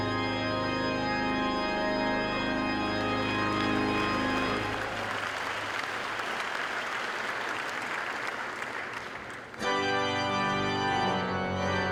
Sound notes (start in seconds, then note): 4.0 applause